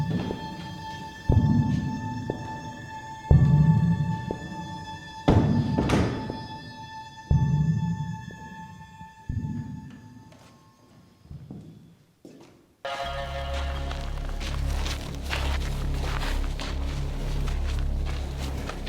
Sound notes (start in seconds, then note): 5.4 doors close; 12.8 ominous music